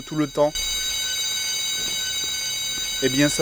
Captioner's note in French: bruit de sirène d'alarme